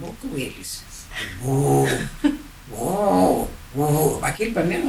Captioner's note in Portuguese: Imitando o som grave da trombeta